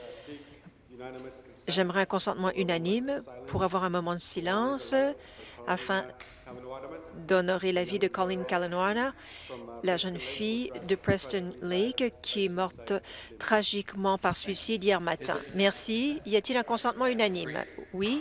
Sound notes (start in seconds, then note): none